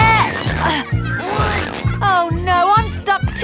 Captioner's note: grunting